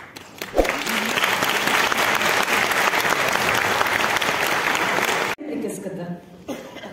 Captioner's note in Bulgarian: аплодисменти